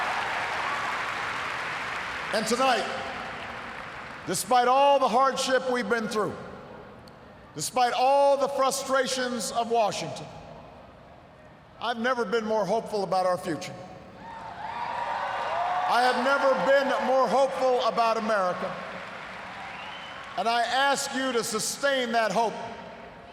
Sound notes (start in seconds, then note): 14.2 cheers, applause